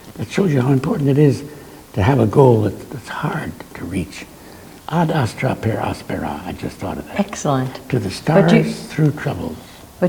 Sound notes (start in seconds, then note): 5.0 speaks in a foreign language